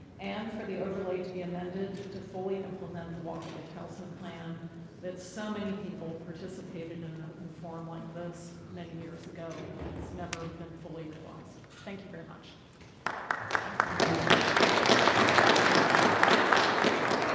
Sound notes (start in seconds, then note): 13.0 audience applauding